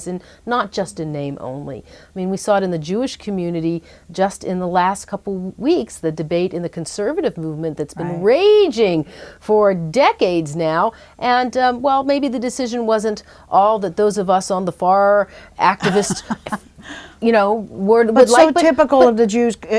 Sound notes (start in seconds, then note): 15.8 laughs